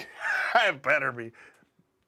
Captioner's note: laugh